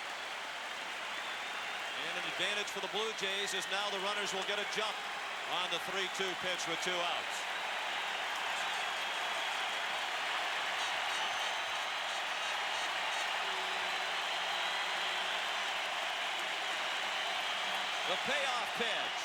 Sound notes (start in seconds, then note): 14.5 applause; 14.8 cheering and Applause